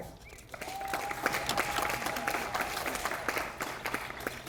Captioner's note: audience applauding